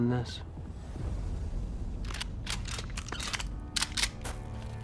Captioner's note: guns cocking